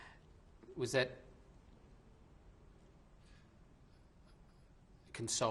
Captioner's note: pauses for 3 seconds